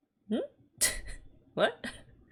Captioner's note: chuckles